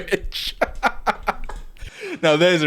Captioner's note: laughing